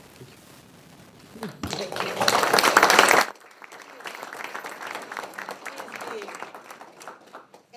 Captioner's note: people applaud